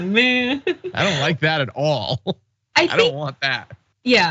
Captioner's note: laugh